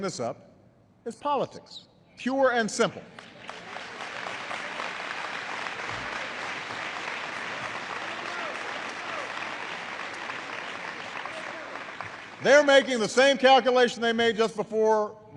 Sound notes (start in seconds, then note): 3.0 applause